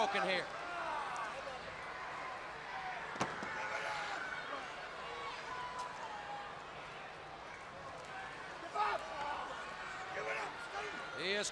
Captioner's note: crowd chatters